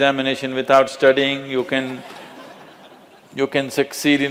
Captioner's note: laughter